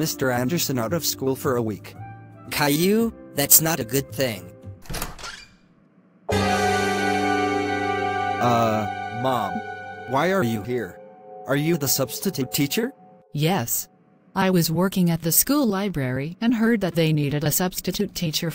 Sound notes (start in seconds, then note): 4.8 door opening